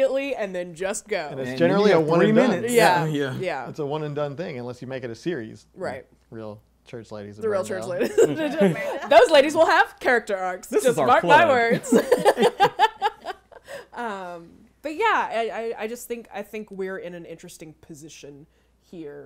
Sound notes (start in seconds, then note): 7.9 chuckling; 11.5 laughing